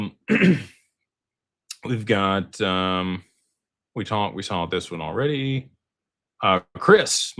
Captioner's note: clears throat